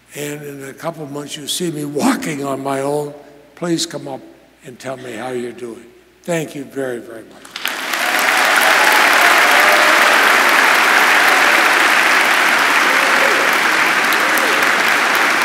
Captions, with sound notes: and in a couple months, you'll see me walking on my own. Please come up and tell me how you're doing. Thank you very, very much. (audience applauds)